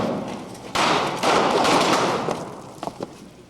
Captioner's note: explosion; multiple explosions